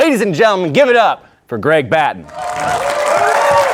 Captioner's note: audience applauding